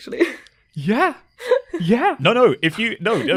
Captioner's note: laughs